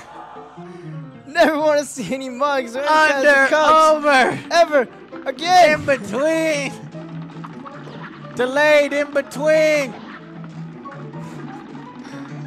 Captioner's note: speaking out the pattern while crying